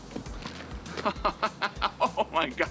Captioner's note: laughs